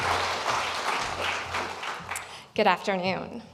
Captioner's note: applause